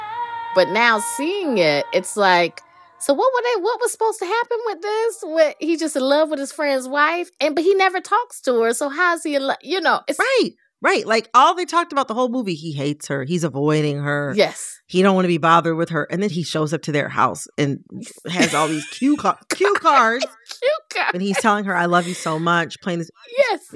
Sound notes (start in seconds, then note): 0.0 singing; 18.3 laughter